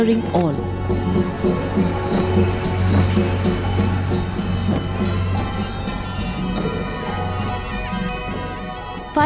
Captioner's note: dramatic music; metal clanking; soft drumming